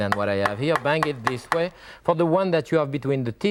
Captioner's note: grater thudding